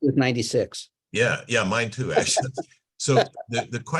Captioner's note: laughs